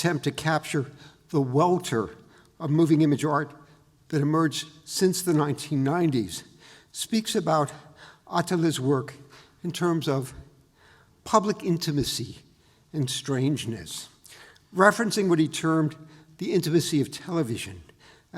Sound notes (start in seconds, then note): none